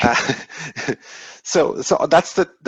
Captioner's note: chuckling